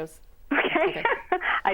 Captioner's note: laughing